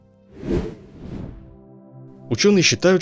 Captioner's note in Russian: Звук перехода